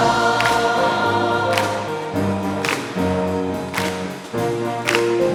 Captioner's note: choir members clapping